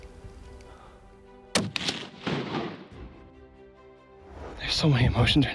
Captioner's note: gun firing